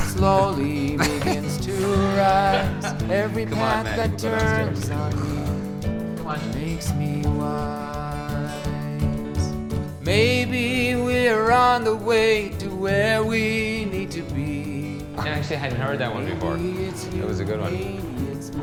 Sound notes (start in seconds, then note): 0.0 laughing; 5.5 sighing